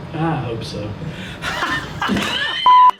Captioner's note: laughter